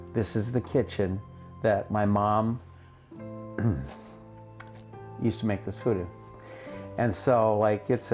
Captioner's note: clears throat